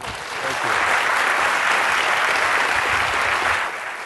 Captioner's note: applause